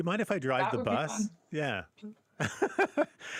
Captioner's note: laughter